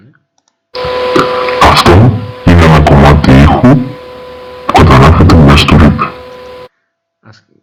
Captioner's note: heavy voice,louder